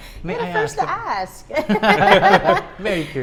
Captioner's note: laughs